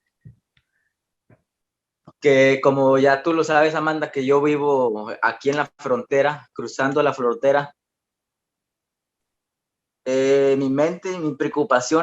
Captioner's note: continues answering in Spanish